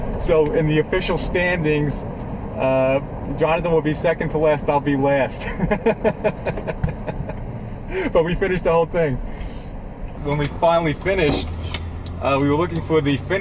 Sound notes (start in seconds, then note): 5.4 laughing